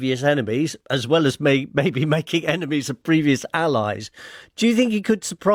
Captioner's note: laughs